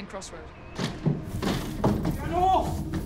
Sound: footsteps clomp

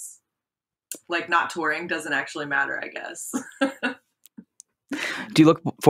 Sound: chuckles

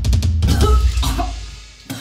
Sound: fast paced, intense drum beat; gagging; spits

